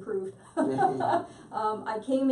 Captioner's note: both laugh